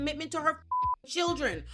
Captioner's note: beep